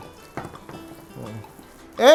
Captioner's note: knock